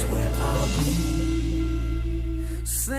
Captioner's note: none